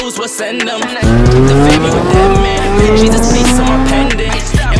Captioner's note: car drifting noise with music playing in the background